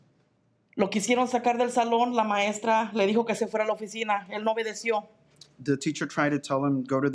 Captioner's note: speaking in Spanish